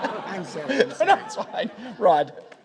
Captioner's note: laughs; audience laughing